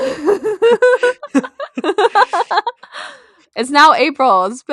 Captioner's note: laughter